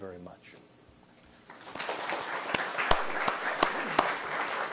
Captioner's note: applause